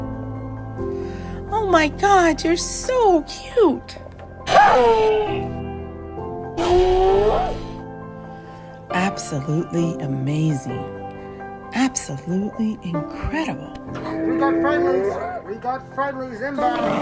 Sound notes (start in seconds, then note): 4.4 brachiosaurus huffing